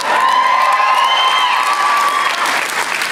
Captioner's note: applause